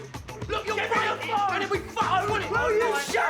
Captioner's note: overlapping shouting